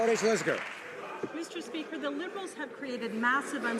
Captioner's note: some Applause